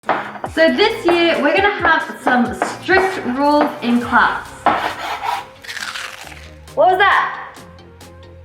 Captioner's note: chalk crunch